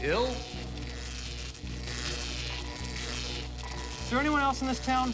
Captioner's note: zapping continues